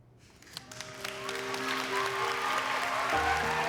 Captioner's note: cheering and clapping